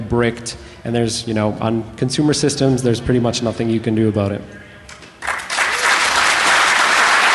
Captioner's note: applause